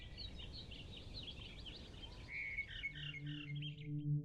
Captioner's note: birds chirping